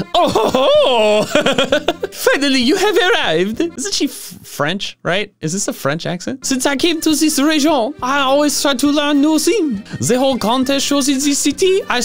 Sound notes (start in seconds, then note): 0.0 laughs; 3.1 comedic French accent; 7.4 accent continues